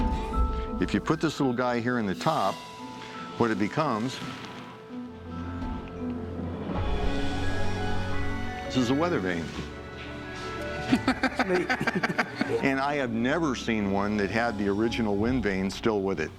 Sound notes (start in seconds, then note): 10.8 laughter